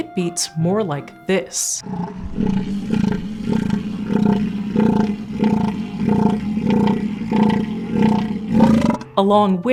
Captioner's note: more complex rhythmic elephant seal call